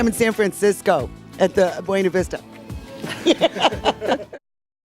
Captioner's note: laughs